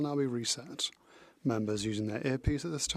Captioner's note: speaking French